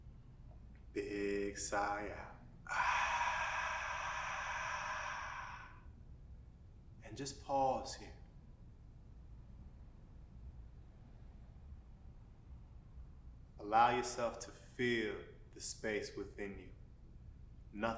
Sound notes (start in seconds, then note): 2.6 outward breath